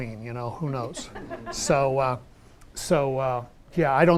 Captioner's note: audience laughs